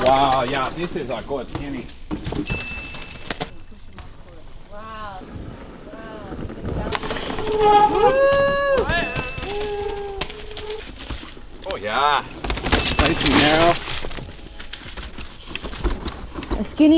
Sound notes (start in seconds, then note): 2.4 wheels squeaking; 6.3 wheels whooshing; 7.2 wheels screeching; 8.1 shouting; 10.0 wheels squeaking; 13.0 wheels squeaking; 16.0 wheels whooshing